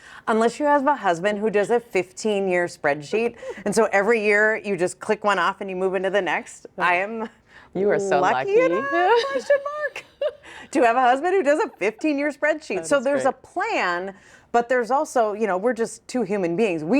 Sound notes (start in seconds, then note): 8.6 chuckles